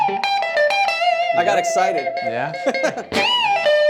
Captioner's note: laughs; guitar music